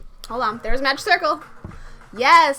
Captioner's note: gasp